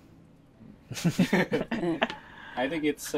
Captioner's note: chuckles